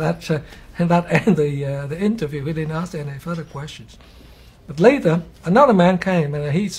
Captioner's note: cười khúc khích